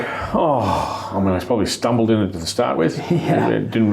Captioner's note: sighs